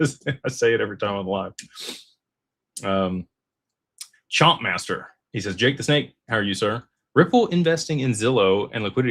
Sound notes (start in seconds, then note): 0.1 laughter; 2.3 snorts